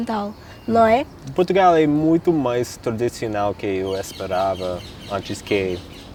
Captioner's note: speaking in Portuguese